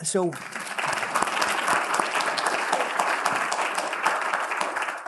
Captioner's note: applause